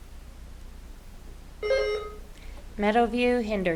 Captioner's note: buzzer ringing